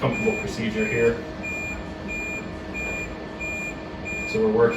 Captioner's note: machine beeping